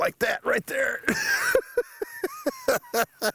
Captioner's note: cackling